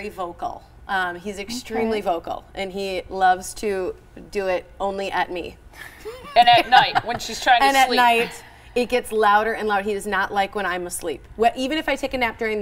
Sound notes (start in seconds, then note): 7.8 laughter